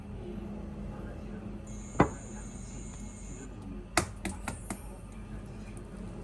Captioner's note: coming to my parent's house.. Naturally, the TV sound is in the background